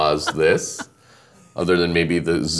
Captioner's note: laughing